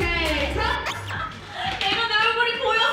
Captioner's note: failed to suppress laughter